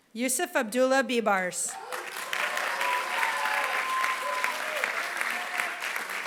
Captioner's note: applause